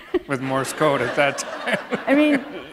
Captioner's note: laughter